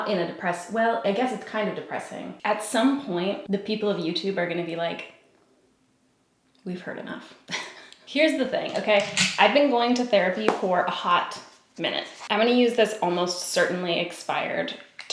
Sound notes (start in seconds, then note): 7.5 giggles